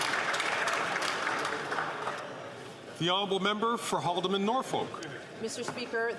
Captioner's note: some Applause